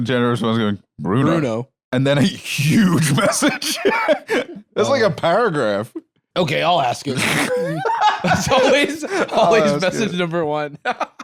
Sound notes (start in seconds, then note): 2.6 laughs; 7.1 laughs